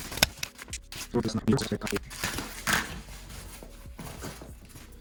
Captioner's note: sped up speech